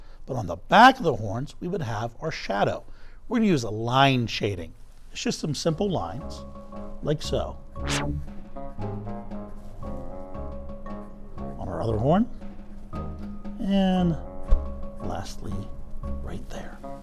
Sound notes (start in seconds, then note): 7.8 graphic buzzes; 7.8 gentle upbeat music